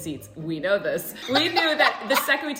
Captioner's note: laughter